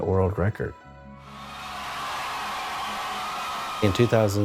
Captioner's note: people cheering